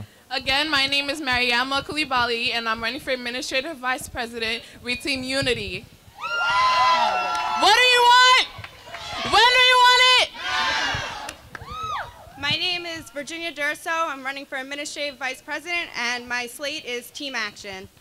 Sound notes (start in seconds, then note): 6.1 crowd cheering; 8.8 crowd